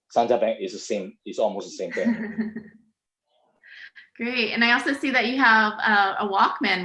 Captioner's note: laugs